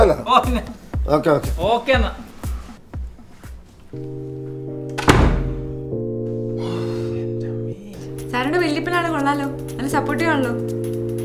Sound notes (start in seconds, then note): 4.9 door closing; 6.5 exhaling